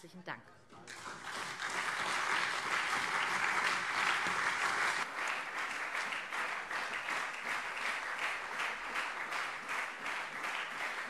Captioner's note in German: Anhaltender Beifall SPD und CDU